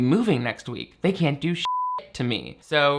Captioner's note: beep